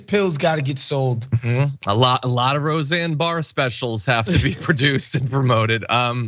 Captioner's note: laugh